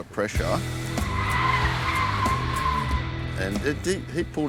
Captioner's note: tires squealing